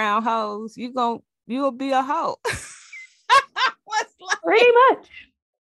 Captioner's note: laughs